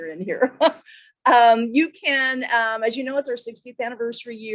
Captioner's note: laughter